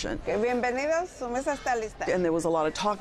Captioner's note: speaking Spanish